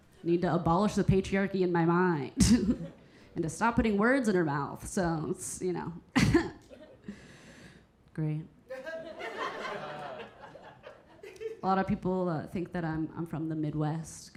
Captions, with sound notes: Need to abolish the patriarchy in my mind and to stop putting words in her mouth. So it's, you know. Great. (audience laughing) A lot of people think that I'm from the Midwest